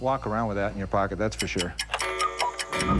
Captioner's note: cuckoo clock